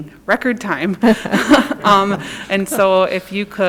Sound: audience laugh

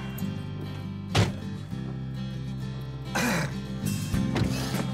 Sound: car doors shutting

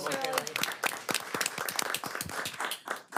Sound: applause

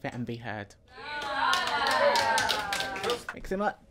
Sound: clapping and encouraging cheer

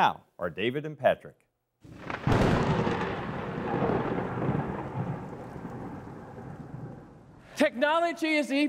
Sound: thunder

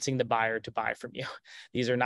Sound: chuckles

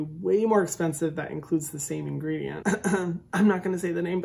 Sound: clears throat

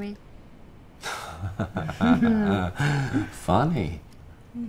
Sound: laughing

